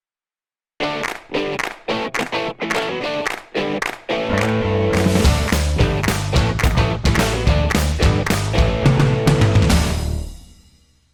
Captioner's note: claps